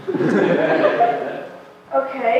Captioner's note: laughter